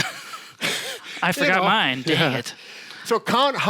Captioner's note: laughs